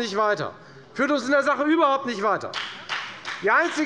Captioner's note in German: Beifall bei der FDP